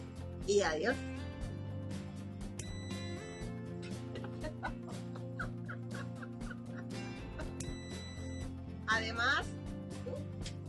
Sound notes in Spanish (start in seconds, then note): 2.6 piiiii; 3.9 risas; 7.6 piiii